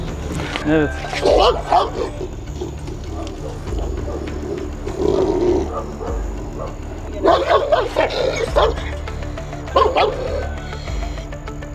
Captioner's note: growling sound and tension music; growling, barking sounds and tension music continues